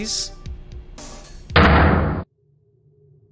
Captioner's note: ominous thrum